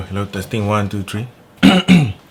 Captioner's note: clears throat